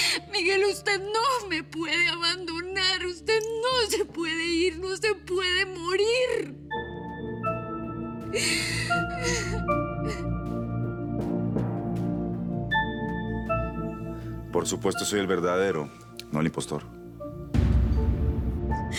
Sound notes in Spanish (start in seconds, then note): 8.3 Sollozos